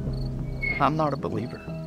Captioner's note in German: Heuschrecken zirpen